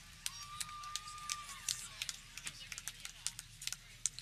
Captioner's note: people cheering